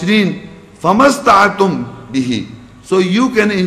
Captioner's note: Arabic